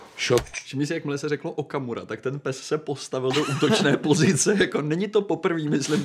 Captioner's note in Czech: smích